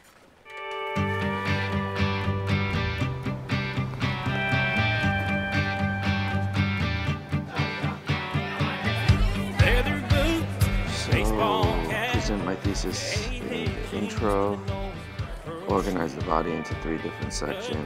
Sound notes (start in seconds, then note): 0.3 rhythmic country rock music with twangy guitar; 7.0 patrons chattering